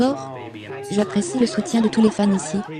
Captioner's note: laughing